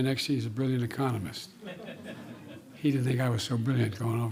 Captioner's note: laughter